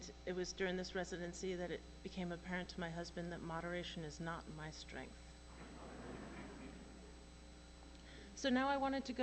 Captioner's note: laughter